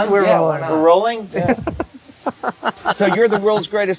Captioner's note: laughs